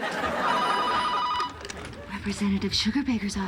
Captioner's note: ringing phone